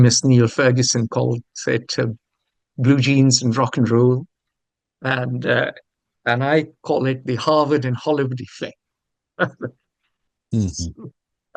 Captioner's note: laughs